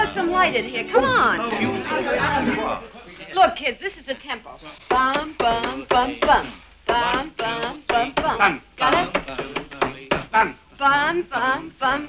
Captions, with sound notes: How about some light in here? Come on. Look, kids, this is the tempo. (SUGARPUSS HUMMING CONGA TEMPO) (EVERYONE HUMMING TEMPO) Got it?